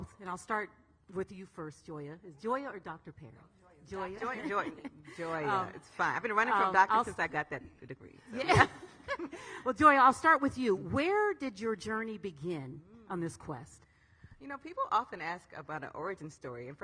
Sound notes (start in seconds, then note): 4.2 laughs; 8.3 all ladies laughing